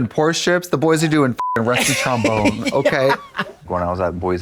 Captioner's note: beep